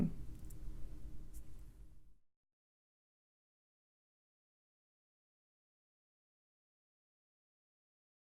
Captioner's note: silence